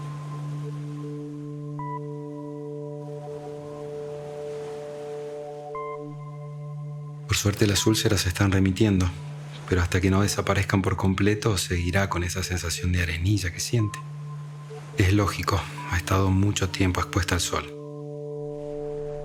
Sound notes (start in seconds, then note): 0.3 soft music; 6.6 waves crashing